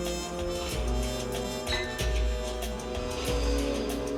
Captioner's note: glasses clink